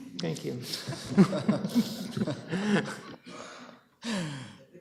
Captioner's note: group chuckling